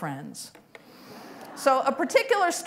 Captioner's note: laughter